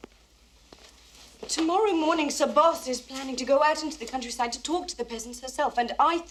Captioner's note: none